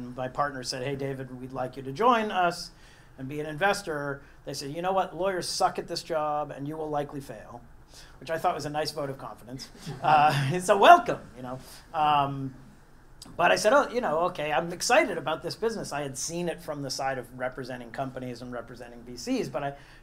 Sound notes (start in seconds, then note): 9.8 laugh